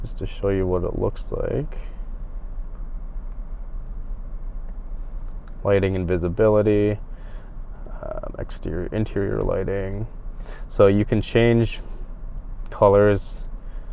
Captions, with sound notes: Just to show you what it looks like. (clicking) Lighting and visibility, interior lighting. So, you can change colors...